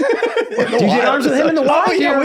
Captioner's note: Rob laughs